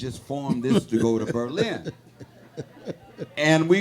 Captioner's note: laughing; audience laughing